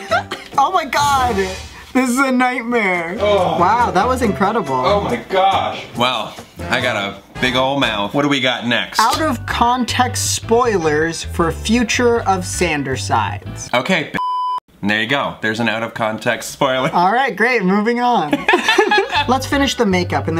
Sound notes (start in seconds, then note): 14.2 beep; 18.3 laughs